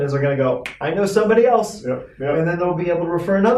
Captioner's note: finger snap